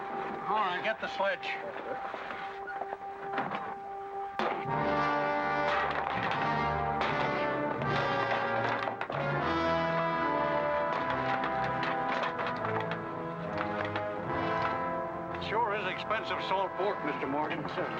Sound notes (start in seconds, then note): 5.4 crack; 5.7 wood breaking; 9.1 ominous music